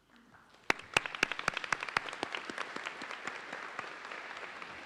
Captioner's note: audience applauds